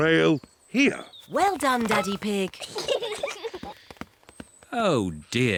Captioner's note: peppa and george giggle